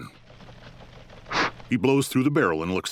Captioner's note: forceful exhale